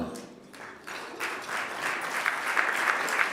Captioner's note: applause